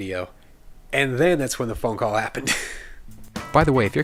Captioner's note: chuckles